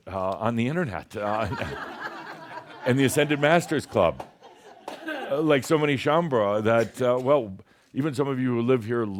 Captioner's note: laughter